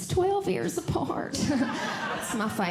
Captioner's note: audience Laughing